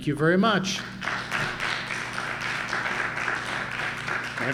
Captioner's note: applause